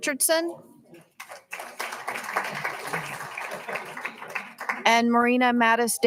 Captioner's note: all applauding